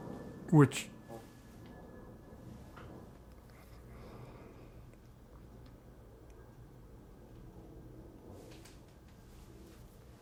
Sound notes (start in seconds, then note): 2.2 pause